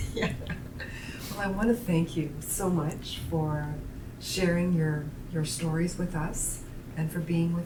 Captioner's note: laughter